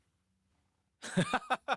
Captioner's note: laughs